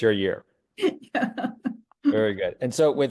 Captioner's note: laugh